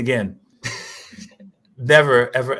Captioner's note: laughter